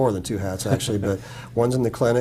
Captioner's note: laugh